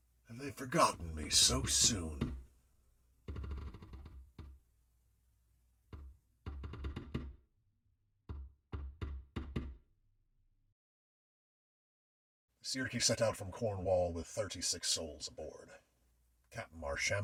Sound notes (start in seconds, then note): 5.6 creaking overhead